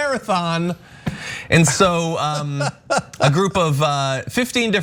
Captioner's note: laugh